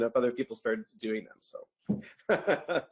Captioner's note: laughs